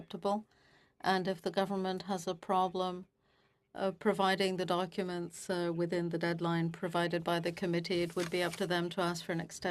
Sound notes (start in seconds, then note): 1.9 speaking FRENCH